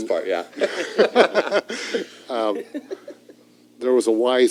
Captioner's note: laughter